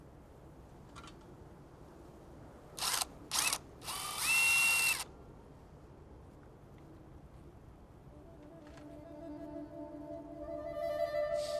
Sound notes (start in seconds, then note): 3.8 drill whirring; 8.5 suspenseful music